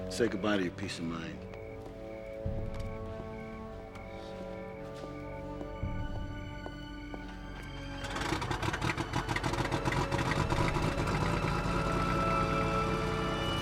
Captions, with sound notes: Say goodbye to your peace of mind. (dramatic orchestral music) (plane engine starting)